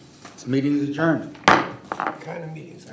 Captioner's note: gavel hitting table